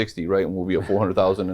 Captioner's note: chuckles